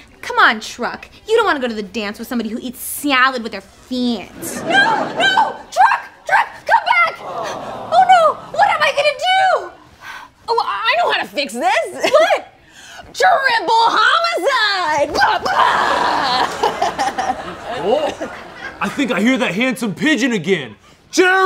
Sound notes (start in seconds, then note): 15.2 laughs